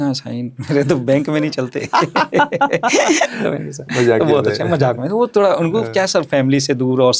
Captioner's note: laughs